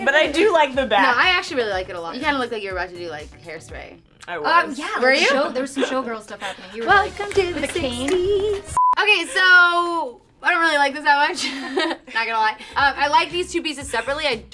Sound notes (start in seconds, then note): 8.7 beep